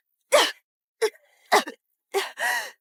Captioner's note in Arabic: سعال